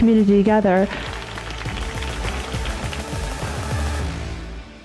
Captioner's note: audience applauding